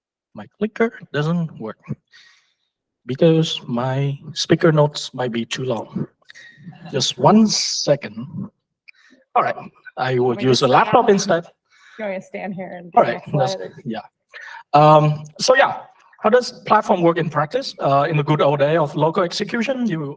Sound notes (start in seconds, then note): 6.5 laughter